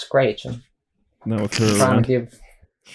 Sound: snickers

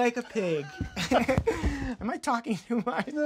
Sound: laughing

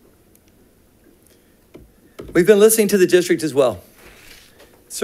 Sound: none

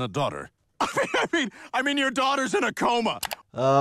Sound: laughs

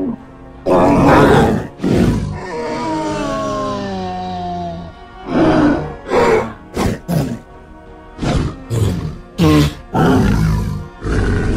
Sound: triceratops Sounds

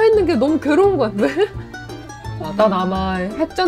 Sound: laugh

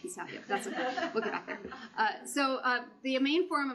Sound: laughter

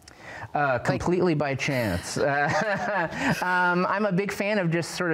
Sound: laughs

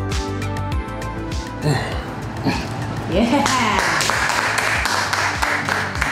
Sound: crowd clapping

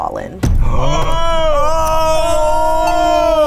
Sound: yelling

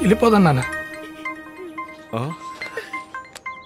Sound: phone ringing

